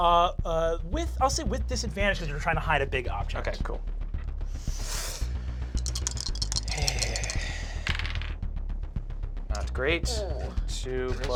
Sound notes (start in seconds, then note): 5.7 rolls dice